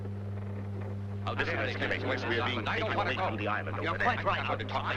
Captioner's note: all murmuring